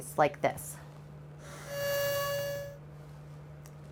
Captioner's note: soft honking noise